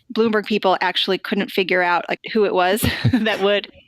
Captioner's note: laughter